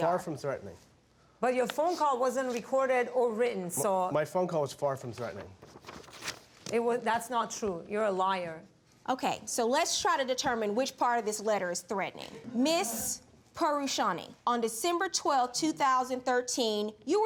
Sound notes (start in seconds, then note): 12.6 audience laughs